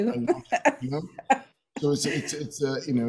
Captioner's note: laughs